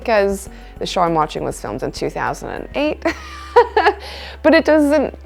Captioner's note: laughs